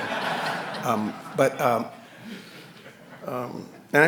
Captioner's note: audience laughing